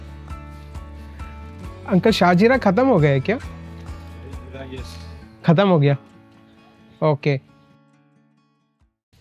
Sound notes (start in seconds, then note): 2.0 speaking in native language